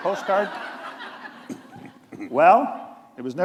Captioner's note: laughter